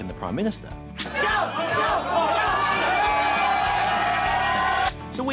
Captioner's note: cheering